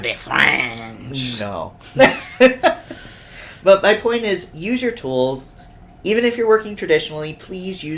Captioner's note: laughs